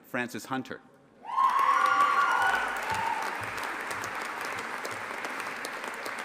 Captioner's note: audience applauding and cheering